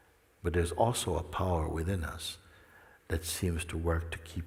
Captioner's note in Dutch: none